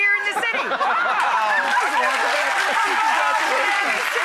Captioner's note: audience laughter and applause